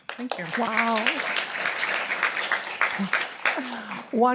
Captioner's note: applause